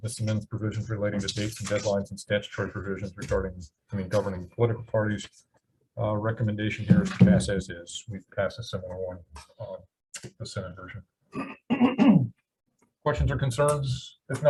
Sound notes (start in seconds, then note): 11.3 clears throat